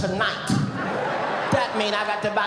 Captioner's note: audience laughing